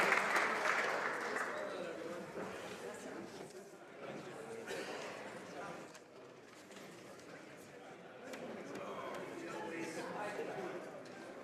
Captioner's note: applause